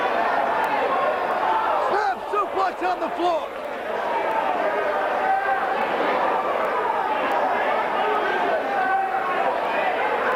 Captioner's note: crowd chatter